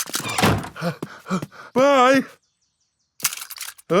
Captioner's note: snorts; panting